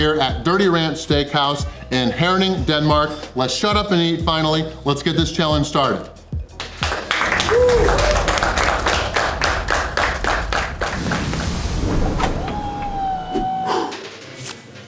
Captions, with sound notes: at Dirty Ranch Steakhouse in Herning, Denmark. Let's shut up and eat finally. Let's get this challenge started!! (Crowd clapping and cheering)